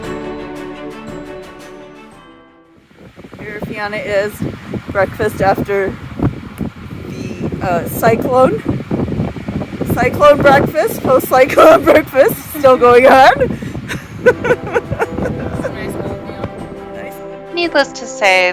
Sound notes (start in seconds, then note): 2.8 strong wind blowing; 8.9 laughs; 17.4 music playing again